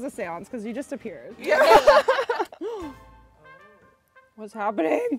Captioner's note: laughs